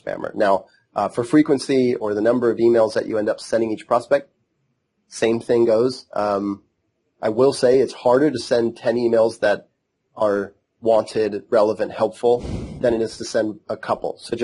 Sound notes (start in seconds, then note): 12.1 laughs